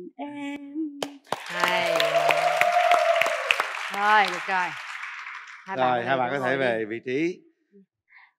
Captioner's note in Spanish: Aplaudir